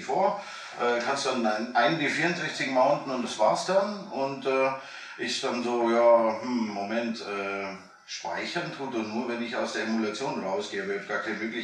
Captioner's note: laughing